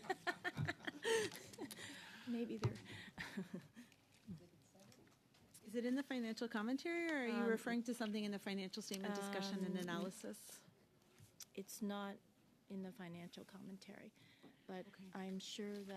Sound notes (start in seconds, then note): 3.2 laughter